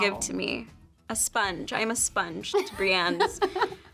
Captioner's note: Brianne laughs